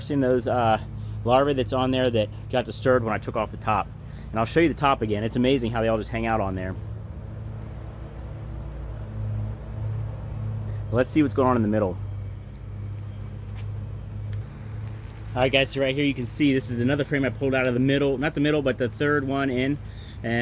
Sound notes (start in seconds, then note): 8.5 bees buzzing